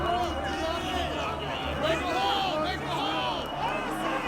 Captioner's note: yelling continues